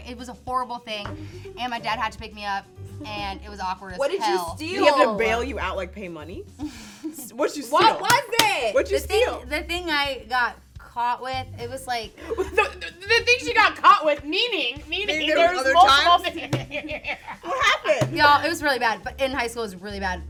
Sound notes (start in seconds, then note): 6.7 laughs; 16.2 laughs